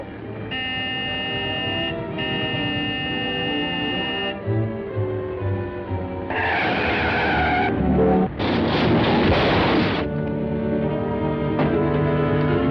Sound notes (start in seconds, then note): 0.4 honking; 6.2 tires screeching; 8.4 crashing noise; 10.7 suspenseful music